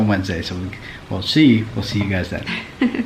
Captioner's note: laughs